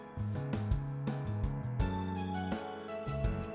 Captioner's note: thunder rumbles